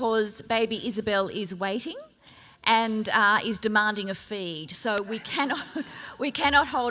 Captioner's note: laughs